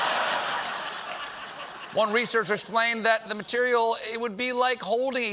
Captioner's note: laughter